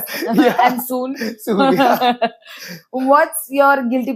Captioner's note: laughs